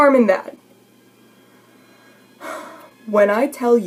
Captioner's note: deep rage-filled breath